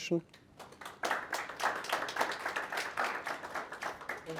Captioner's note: applause